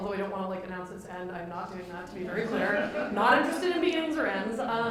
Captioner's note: laughter